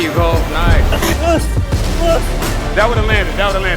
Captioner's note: Stephen Fulton groaning